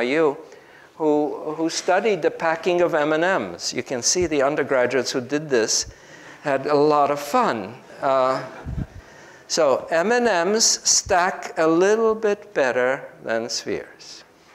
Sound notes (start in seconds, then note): 8.3 group laughs